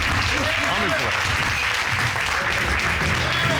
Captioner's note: audience applauding